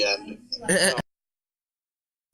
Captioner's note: chuckles